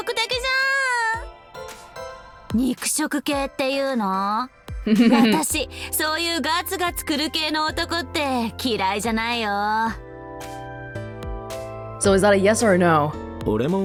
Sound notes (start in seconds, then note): 4.8 chuckles